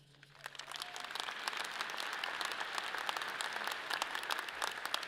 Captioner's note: audience applauds